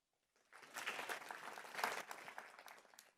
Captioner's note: applause